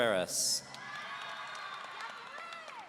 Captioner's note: audience cheering